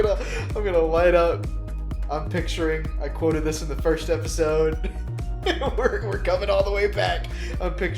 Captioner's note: chuckles; chuckles